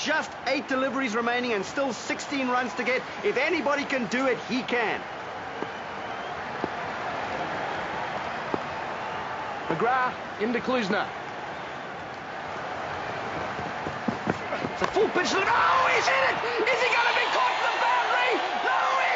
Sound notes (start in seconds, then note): 5.4 thudding; 14.4 grunts and bat cracks against ball